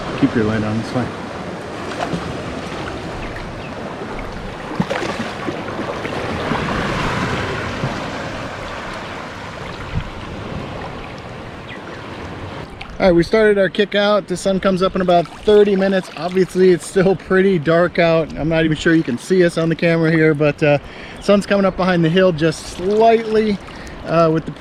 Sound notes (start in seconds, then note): 4.9 water sloshing; 11.0 bird chirping